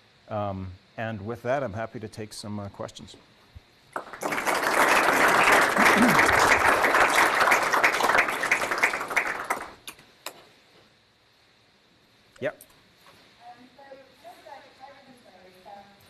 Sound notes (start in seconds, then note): 3.9 applause